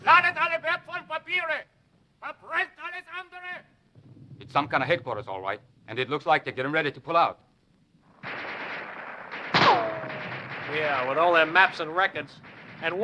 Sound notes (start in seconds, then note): 0.2 shouting in foreign language; 8.1 guns firing